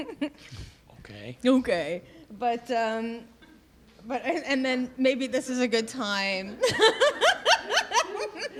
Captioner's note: laughter